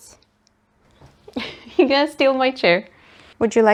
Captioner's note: laughs